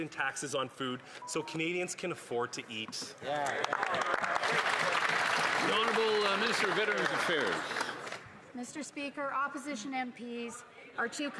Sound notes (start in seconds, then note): 9.1 some Applause